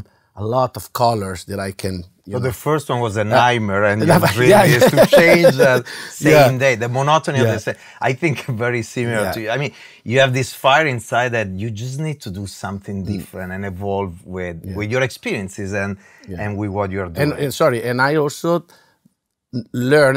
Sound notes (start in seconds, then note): 4.0 laugh